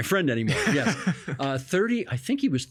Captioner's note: laughing